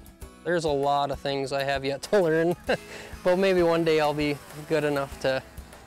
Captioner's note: laughs